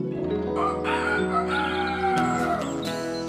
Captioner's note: rooster Crows